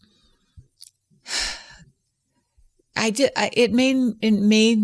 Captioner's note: sighs